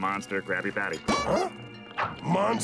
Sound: gasping

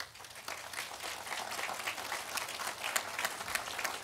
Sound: audience applauding

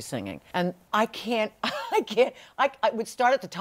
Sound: laughs

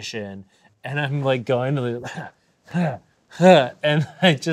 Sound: grunting

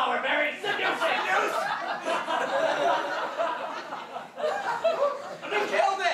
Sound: audience laughter

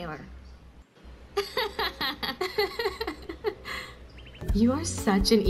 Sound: laughs

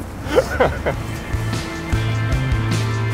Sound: laughing

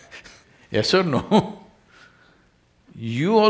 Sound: laughs

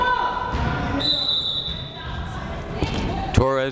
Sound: whistle blowing

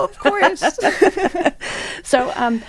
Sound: women laughing

